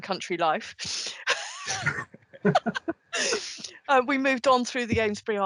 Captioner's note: laughter